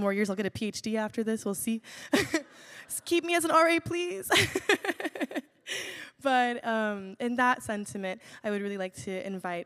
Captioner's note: laughs